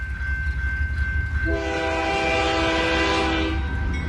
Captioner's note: train wistle blowing